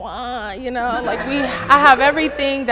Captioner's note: everyone laughing